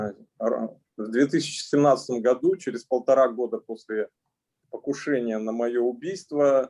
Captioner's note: speaking Russian language